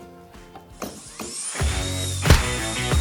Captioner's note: saw whirring; groovy upbeat music